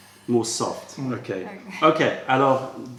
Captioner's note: french